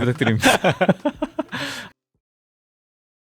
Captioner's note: laugh